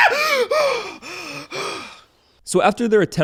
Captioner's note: heavy breathing